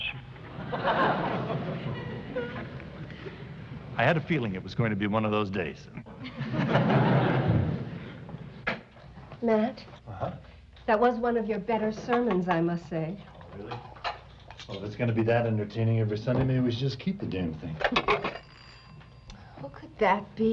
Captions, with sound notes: [laughter] -I had a feeling it was going to be one of those days. [laughter] -Matt? -Uh-huh. -That was one of your better sermons, I must say. -Oh, really? Well, if it's going to be that entertaining every Sunday, maybe we should just keep the damned thing. [doorbell ringing] -Who could that be?